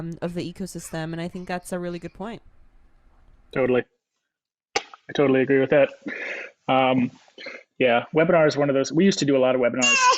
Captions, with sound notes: of the ecosystem and I think that's a really good point. - Totally, (kisses), I totally agree with that. Yeah webinars is one of those, we used to do a lot of webinars